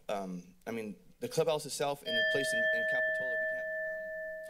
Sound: alarm sound

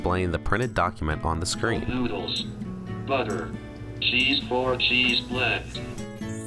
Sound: computer speaking

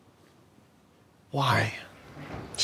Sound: none

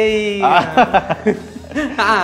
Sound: laughs

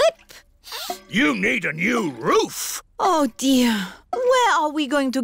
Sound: sniffs

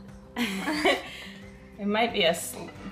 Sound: laughs

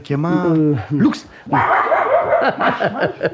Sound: the puppy barks aggressively

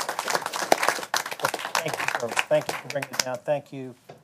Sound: applause

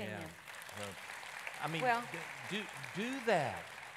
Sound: audience applauding

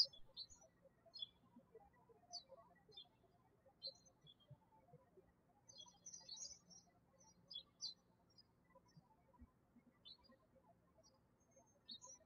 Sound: birds chirping

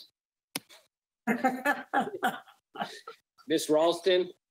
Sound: group laughs

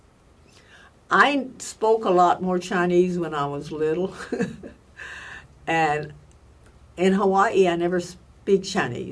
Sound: laughs

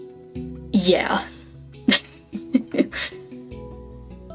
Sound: laughter

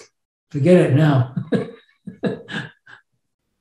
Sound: laughs

